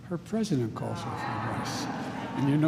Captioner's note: laughter